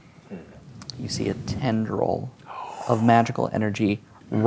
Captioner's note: gasps